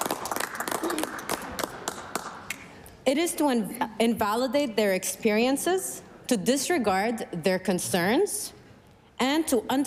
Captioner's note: applause